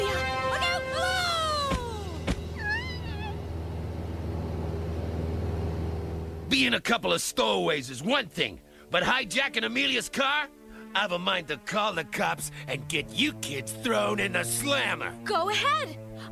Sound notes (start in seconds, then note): 2.5 whimpering